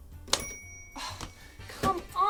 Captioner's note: typewriter dings